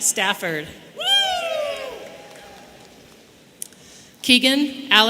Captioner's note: man cheering